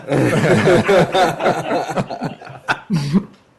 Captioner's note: laughter